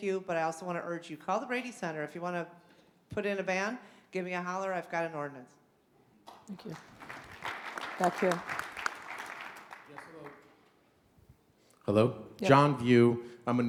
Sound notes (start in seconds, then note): 6.3 audience applauds